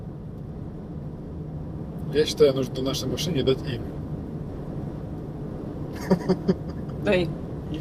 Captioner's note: laughs